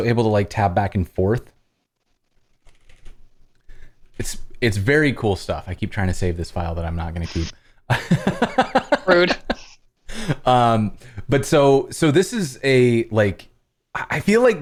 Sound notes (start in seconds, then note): 7.9 laughter